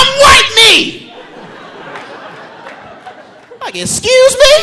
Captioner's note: audience laughing